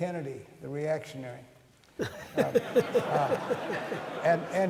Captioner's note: laughter